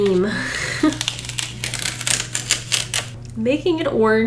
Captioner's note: masking tape tears off